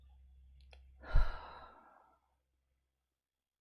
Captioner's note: exhales